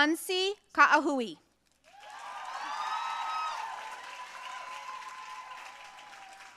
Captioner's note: audience cheering and applauding